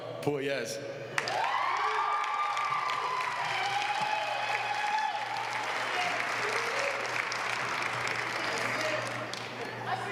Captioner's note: applause